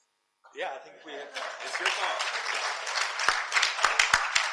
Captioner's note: audience applauding